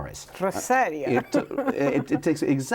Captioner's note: laughs